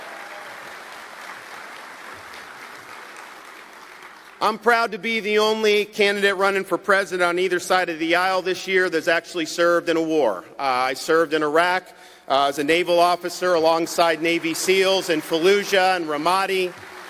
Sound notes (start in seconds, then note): 4.6 applause